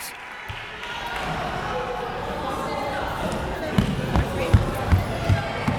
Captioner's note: crowd members talking